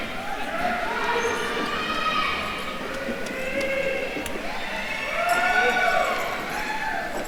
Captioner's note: attendees chattering; attendees cheering